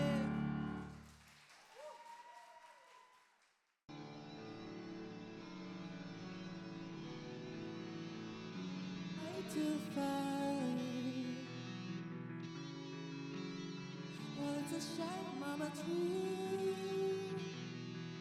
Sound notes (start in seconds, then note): 0.0 applause